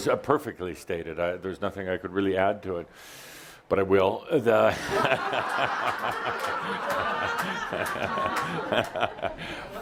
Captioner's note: laughter